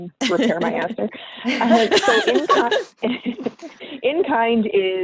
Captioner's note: laughing